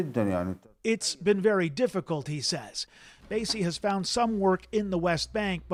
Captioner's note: speaking alternate language